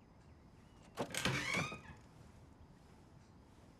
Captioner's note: door creaks open